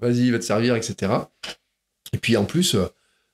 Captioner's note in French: bruit de bouche